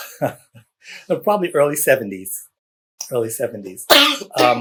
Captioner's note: laughter